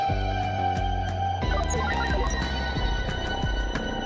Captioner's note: computer beeps